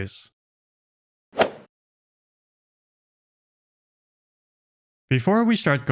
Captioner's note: golf ball hit sound effect